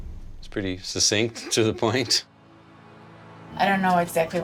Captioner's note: laughs